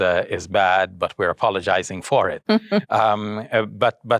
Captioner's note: chuckles